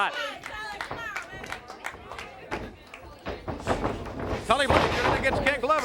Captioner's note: crowd chatter